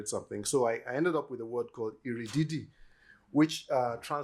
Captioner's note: yoruba